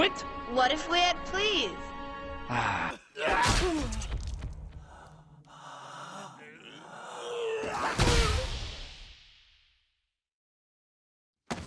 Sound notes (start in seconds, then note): 3.2 punching sounds; 7.6 more punching sounds